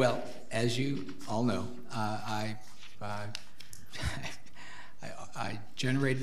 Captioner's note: laughs